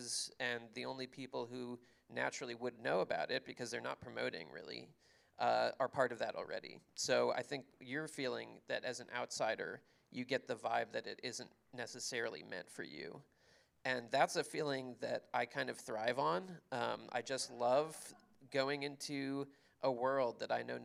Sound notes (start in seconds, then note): none